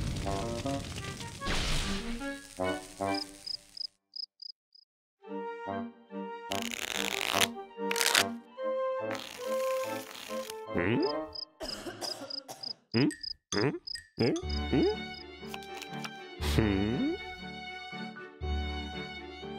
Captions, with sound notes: (crickets chirping) HMM? (crickets, coughing) HMM? HMM? HMM? HMM? HMM.